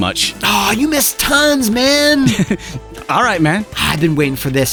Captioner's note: chuckle